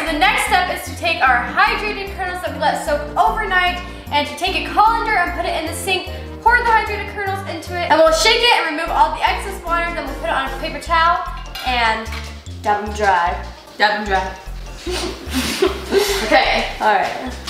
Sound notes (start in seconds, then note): 14.8 girls snickering